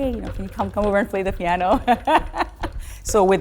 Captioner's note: laughs